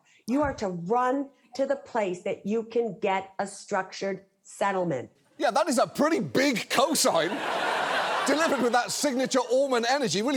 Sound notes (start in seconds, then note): 6.8 audience laughs